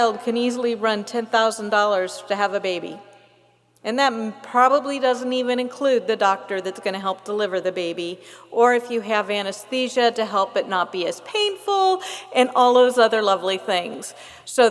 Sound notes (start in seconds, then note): none